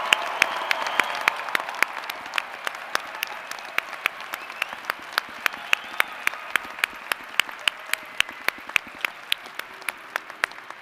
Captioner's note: applause